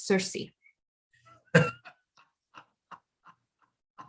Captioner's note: NOSTRADAMUS laughs